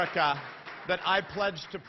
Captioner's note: applause; speaking spanish